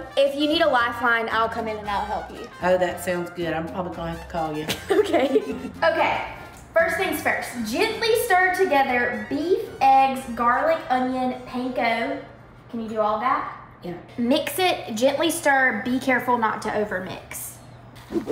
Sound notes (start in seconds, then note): 4.7 laughing